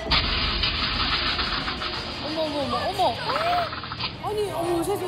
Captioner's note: gas shooting out of the exhaust